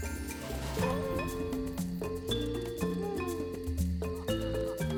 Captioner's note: baby coos